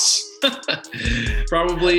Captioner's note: laughs